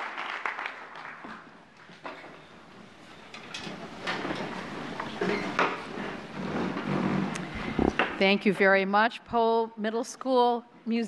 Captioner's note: applause